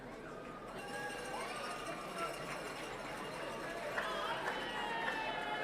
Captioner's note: people chattering